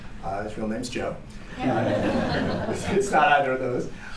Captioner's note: laughter